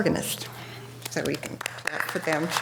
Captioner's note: audience applause